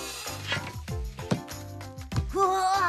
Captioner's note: ball Thumping